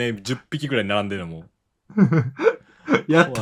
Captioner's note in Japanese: 笑い